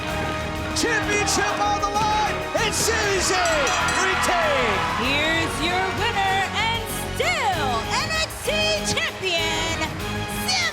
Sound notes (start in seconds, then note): 5.4 bell ringing